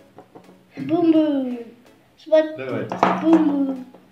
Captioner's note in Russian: Бах